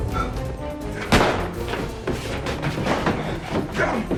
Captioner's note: gun firing; grunting